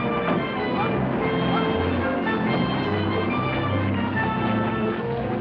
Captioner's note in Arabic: صوت طرقات باب السيارة; محرك السيارة يدور